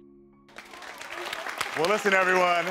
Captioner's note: audience applauding